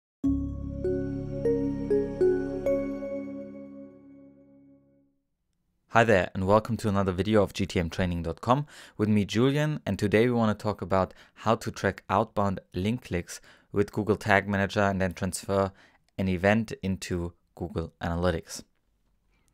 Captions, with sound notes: (gentle bell music) - [Voiceover] Hi there, and welcome to another video of GTMTraining.com with me, Julian, and today we wanna talk about how to track outbound link clicks with Google Tag Manager and then transfer an event into Google Analytics.